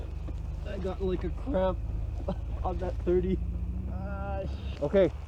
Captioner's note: grunt